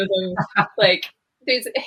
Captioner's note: laughs